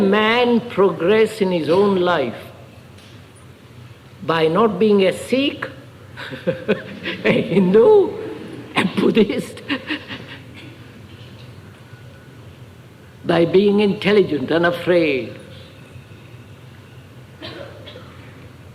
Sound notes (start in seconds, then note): 6.2 laughs